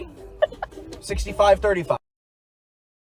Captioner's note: laughs